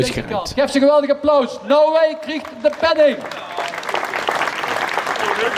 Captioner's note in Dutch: applaus